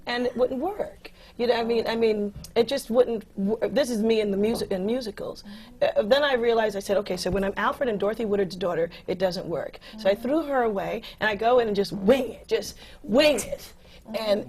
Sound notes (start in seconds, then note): none